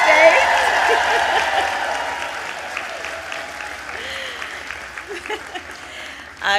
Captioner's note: applause; laughs